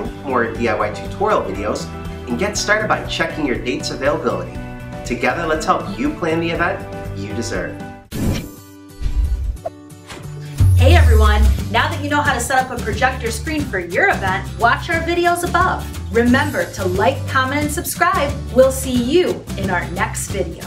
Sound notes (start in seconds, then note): 8.2 air whooshing; 8.2 upbeat music